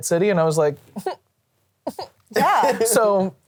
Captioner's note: scoffs